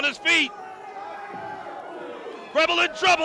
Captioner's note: crowd cheering